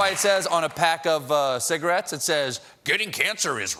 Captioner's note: applause